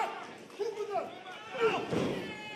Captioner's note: crowd chatter